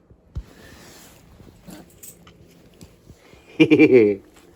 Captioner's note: Ella laughs